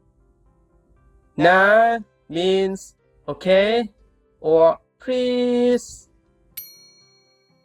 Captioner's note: friendly begging tone